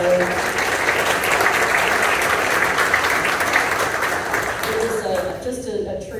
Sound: applause

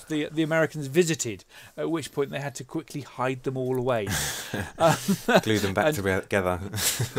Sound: laughs

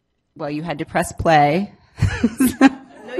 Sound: laughs

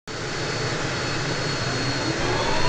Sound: machine noise; generator powering up

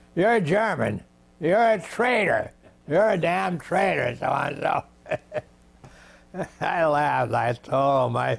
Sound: laughs

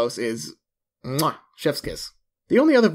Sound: kissing

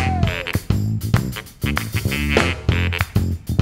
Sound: hands clapping

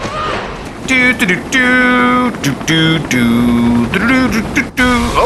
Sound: doot dooting

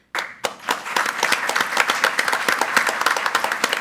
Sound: group applauding

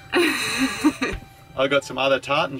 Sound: laughing

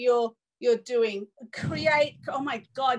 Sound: thunder rumbling

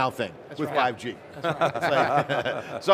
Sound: all laughing

